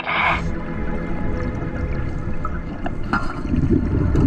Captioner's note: water flowing